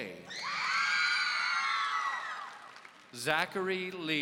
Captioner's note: audience cheering